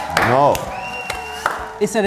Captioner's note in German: Jubel